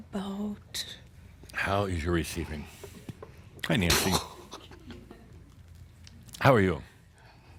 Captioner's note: chuckles